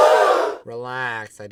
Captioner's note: audience gasps